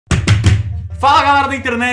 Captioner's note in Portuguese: Batendo na Mesa